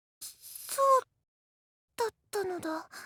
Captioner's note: none